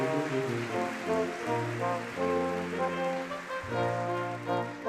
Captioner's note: audience clapping